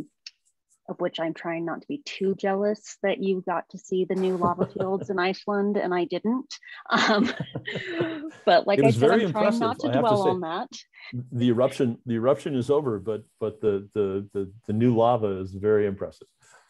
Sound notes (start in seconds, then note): 6.9 laughter